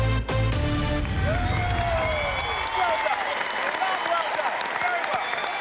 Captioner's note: cheering and applause